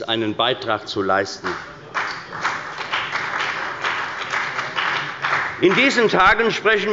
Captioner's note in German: Beifall bei der CDU und dem BÜNDNIS 90/DIE GRÜNEN